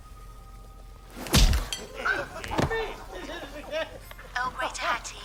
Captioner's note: laughter